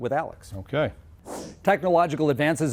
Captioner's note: whoosh sound